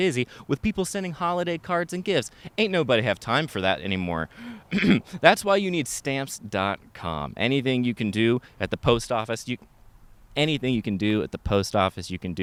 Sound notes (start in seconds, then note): 4.6 clears throat